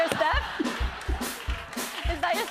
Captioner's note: laughter